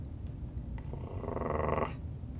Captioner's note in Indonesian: menggeram